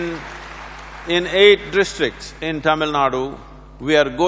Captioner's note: applause